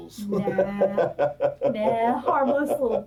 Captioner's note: laughs